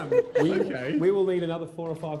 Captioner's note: laughter